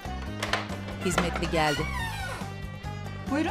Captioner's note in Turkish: Kapı açma sesi